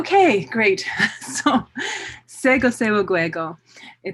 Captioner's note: non-english speech